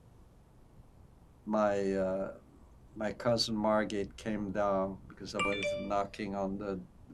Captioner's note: phone ringing